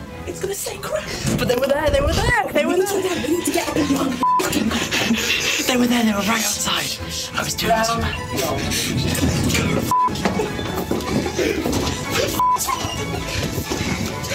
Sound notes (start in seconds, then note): 7.1 hushing